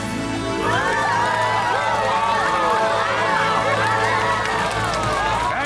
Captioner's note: audience clapping and cheering